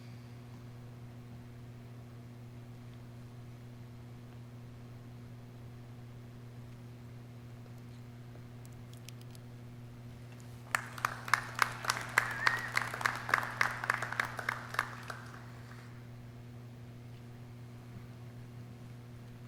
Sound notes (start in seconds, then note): 10.6 clapping